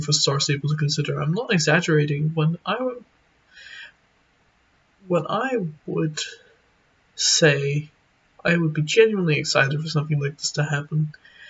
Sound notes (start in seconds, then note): 3.5 inhale